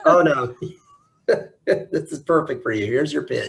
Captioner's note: laughs